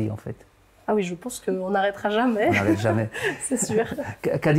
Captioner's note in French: rire